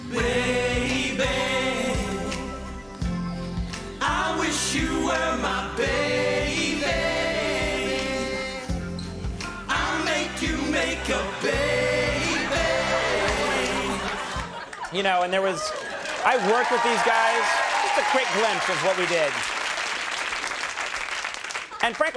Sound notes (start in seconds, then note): 0.0 soft music; 14.2 audience laughing; 16.1 audience cheering